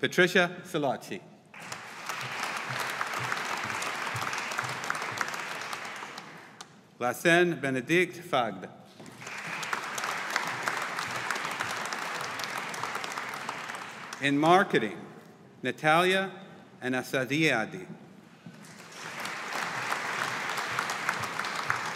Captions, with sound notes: Patricia Silocchi. (AUDIENCE APPLAUDING) Lasse Benedikt Vaagt. (AUDIENCE APPLAUDING) In Marketing, Natalia Athanasiadi. (AUDIENCE APPLAUDING)